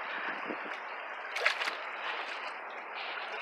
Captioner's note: splashing